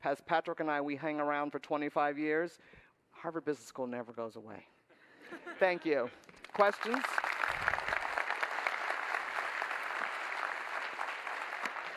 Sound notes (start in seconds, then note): 5.2 laughter; 6.3 applause